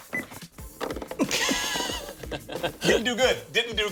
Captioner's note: laughs